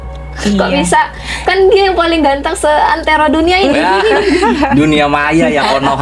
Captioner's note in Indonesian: tertawa